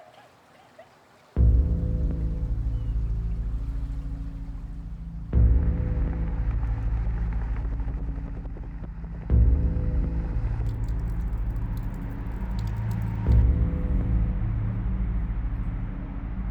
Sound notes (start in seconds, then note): 1.4 ominous music; 10.6 rain patters; 13.6 ominous music